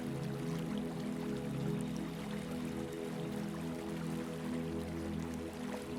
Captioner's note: water trickling